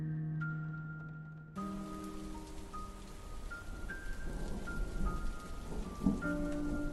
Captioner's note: rain patters